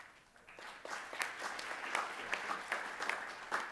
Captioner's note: applause